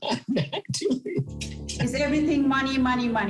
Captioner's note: laughing